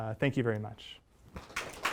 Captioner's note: applause